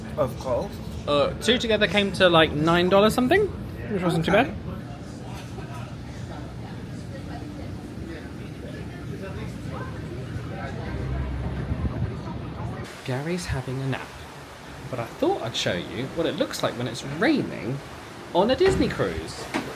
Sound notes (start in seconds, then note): 5.5 crowd chattering; 5.5 wind whipping